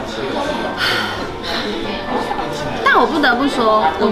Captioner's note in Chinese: 嘆長氣～～～～